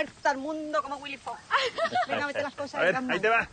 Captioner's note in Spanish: Risas